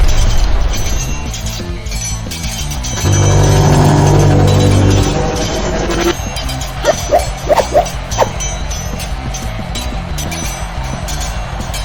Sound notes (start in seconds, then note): 0.2 swords clanging; 2.9 low humming; 6.8 wind whooshing